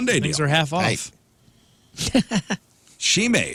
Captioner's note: laughing